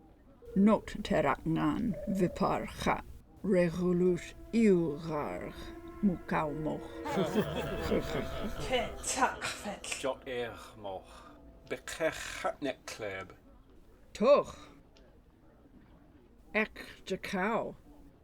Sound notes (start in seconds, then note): 6.8 Klingons laugh